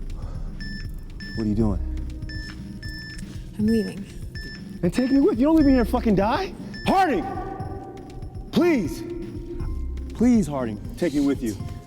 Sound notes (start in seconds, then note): 2.2 control panel beeps